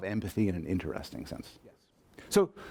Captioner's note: voiceover